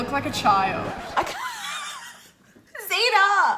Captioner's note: laughing